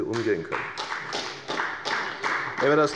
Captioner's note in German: Beifall bei der FDP